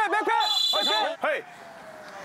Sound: whistle blowing

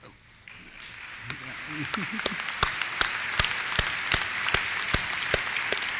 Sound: applause

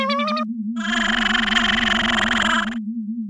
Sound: motor slowing down

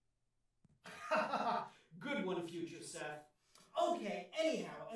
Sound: chuckles

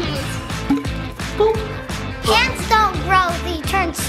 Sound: jar pops

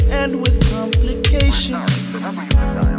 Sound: phone dialing

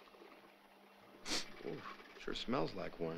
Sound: sniffs

